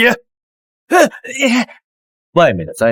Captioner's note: groans